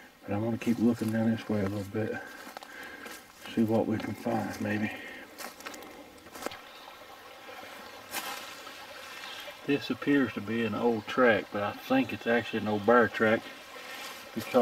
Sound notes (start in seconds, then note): 5.3 leaves crunching; 7.1 burbling water